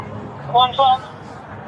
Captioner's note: radio chatter